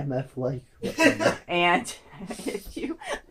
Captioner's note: background laughter